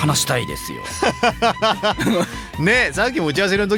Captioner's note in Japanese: 笑い